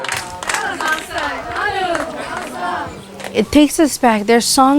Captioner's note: voiceover; speaking Hawaiian